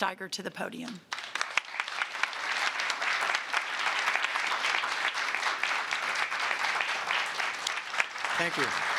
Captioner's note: applause